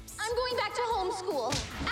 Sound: thud

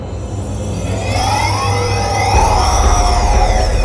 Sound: growling and roaring

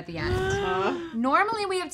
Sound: gasps

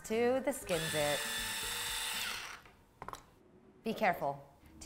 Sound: machine whirs

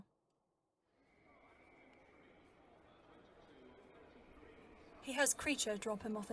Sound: trains whistling, chattering of a crowd

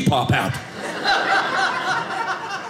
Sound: audience laughing

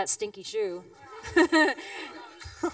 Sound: laughs; Ethan chuckles

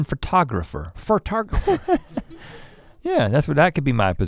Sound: chuckles

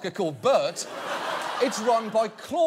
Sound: audience laughing

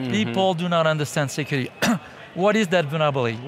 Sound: coughing

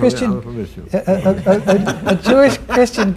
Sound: laughter

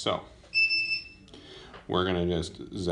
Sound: beeping

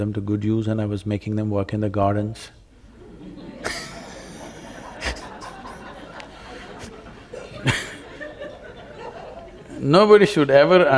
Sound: laughter

